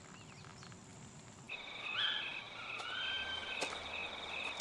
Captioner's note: crickets chirping